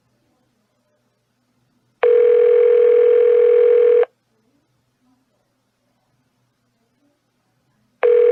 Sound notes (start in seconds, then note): 2.0 phone still ringing